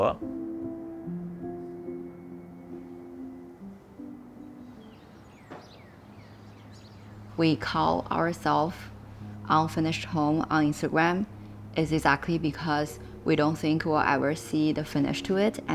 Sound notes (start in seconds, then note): 0.3 gentle music; 4.8 birds chirping